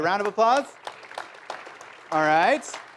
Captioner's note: applause